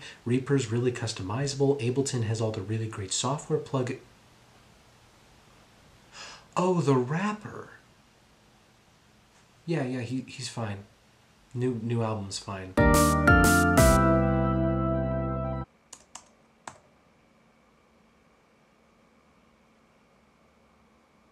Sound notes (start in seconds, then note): 12.8 upbeat music plays; 15.9 keyboard clicks